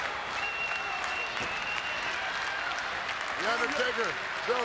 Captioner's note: crowd claps rhythmically